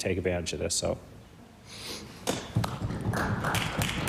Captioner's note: some Applause